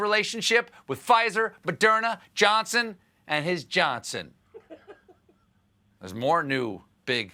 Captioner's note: laughter